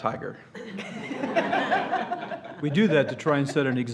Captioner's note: laughter